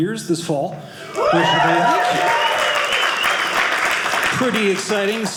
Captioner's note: audience cheering